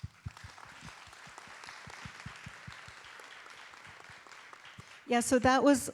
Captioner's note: audience and performers applaud